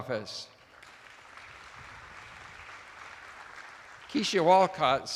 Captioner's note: attendees applauding